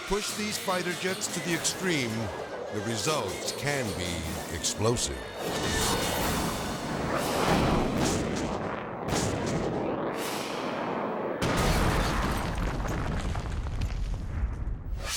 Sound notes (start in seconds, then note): 0.0 chaotic dramatic music; 4.9 edgy dramatic music; 7.4 ejections exploding; 11.3 jet crashing; 11.3 flames bursting